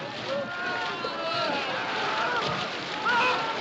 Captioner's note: Gritos